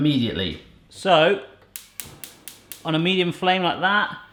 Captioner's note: clicking